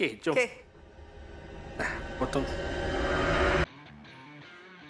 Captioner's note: suspicious sound effect